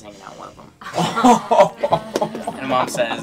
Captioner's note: laughing